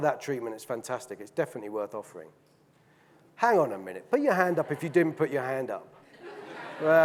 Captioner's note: audience laughing